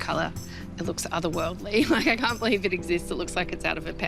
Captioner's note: chuckles